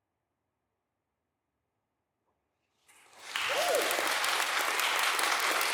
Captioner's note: applause